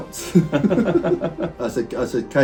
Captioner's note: both laughing